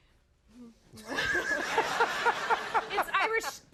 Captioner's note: crowd laughs